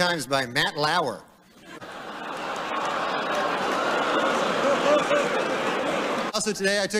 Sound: laughter, oohs, groans, murmurs

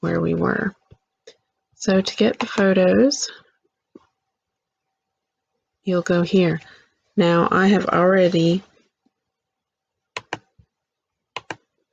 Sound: click; click

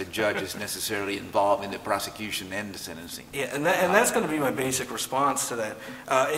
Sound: laughter

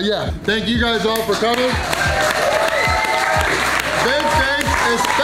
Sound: crowd cheering

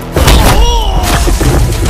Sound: thuds

